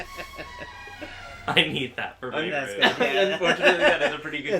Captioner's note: laughter